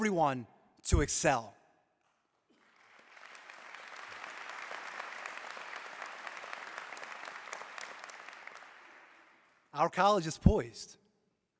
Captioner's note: applause